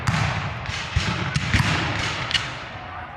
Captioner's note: guns fire